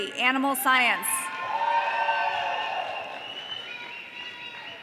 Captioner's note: audience cheering